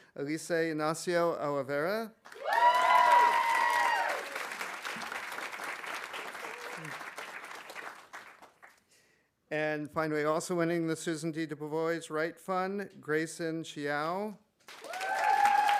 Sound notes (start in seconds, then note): 2.2 audience applauding; 2.3 audience cheering; 14.6 audience applauding; 14.8 audience cheering